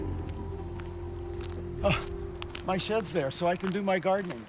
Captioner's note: exhales